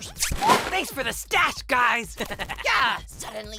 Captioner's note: fanny chuckles